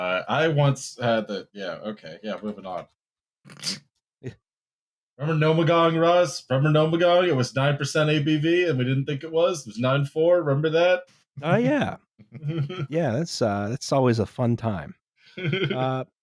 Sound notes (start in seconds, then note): 3.8 snorts; 12.4 chuckle; 15.4 chuckles